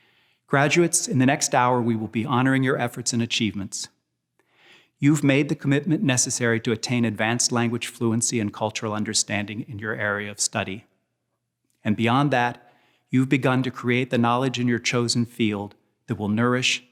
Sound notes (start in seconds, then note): none